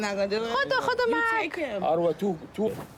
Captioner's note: non-english speech